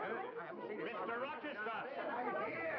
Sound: crowd chattering

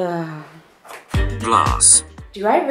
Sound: computer Voice

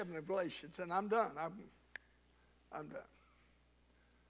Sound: snaps fingers

